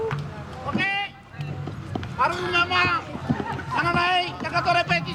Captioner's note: speaking Tahitian language